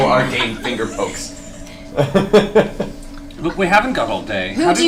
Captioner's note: all laugh